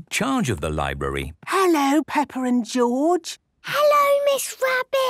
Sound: whispering

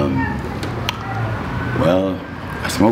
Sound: tongue clicking

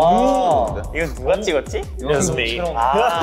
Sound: speaking Korean

